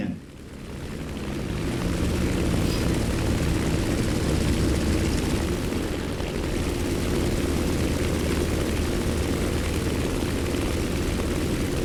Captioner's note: aircraft Engines ,Gunfire, Flying Sounds